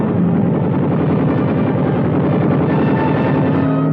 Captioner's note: guns firing